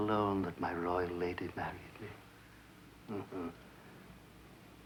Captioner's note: chuckles